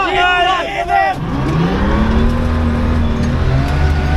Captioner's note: engine revving